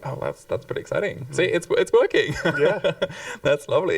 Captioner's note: chuckles